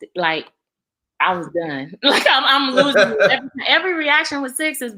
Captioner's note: laughs